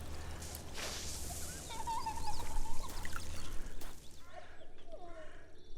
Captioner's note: child giggling